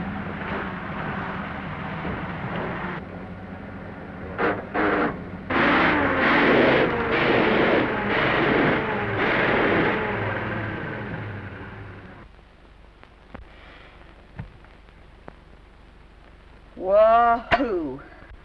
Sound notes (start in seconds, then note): 4.3 gears grind